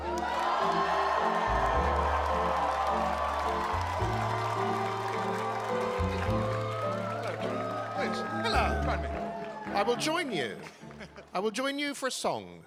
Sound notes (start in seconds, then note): 0.0 cheering; 0.0 applause